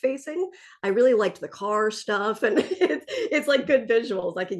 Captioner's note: laughs